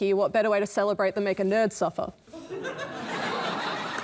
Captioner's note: laughter